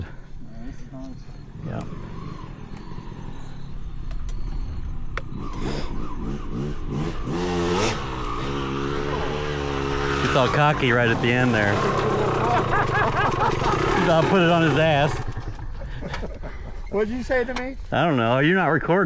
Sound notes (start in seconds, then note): 8.1 engine revving; 16.3 laughing